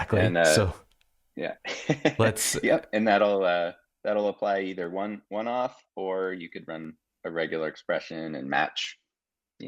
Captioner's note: chuckling